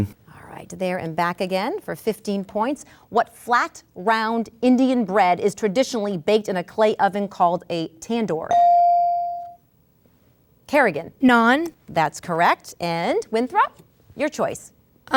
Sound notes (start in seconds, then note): 8.5 ding